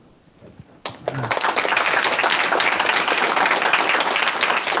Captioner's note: applause